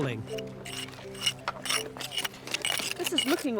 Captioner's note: tools scraping